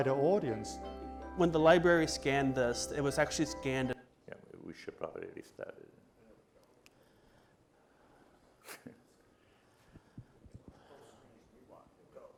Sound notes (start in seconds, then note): 8.4 laughs